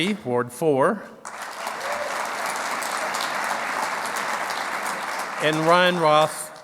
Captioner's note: clapping